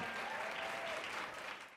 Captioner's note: crowd cheering